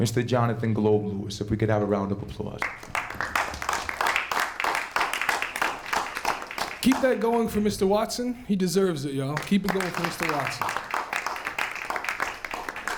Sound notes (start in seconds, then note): 2.6 applause; 9.3 applause